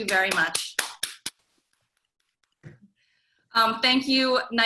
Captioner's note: clapping